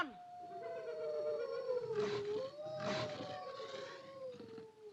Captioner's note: howling and snorting